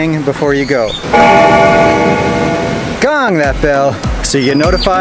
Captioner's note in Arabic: رنين الجرس